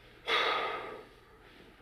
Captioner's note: sighs